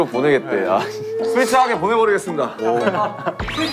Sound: haha

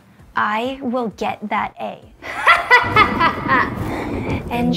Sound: laughing

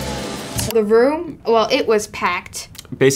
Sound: computer click

